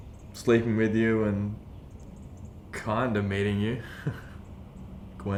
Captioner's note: laughing